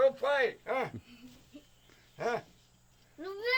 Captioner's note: speaking Yanomami; child speaking Yanomami; speaking Yanomami